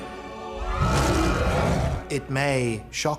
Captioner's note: snarls, people screaming